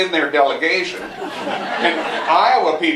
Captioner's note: laughter